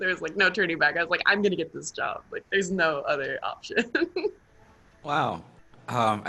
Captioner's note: laughs